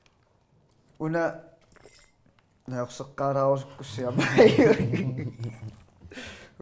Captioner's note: laughs